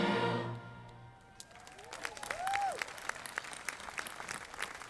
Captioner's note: audience applauding